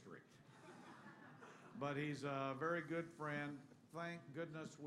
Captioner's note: laughter